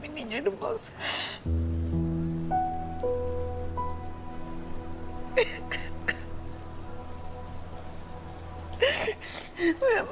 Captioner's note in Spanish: Sollozos